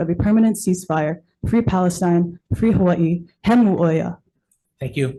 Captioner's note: speaks Hawaiian